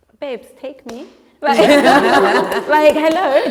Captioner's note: laughter